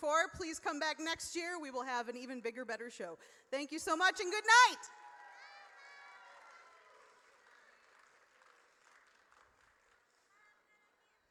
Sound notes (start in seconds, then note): 4.8 audience cheers